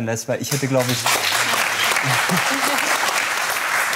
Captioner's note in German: Applaus